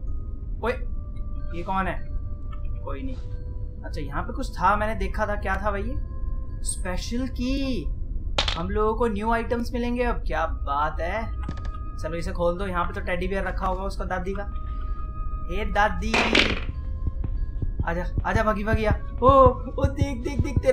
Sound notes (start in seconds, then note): none